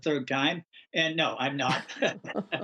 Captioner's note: laughter